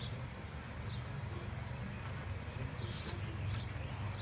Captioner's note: birds chirping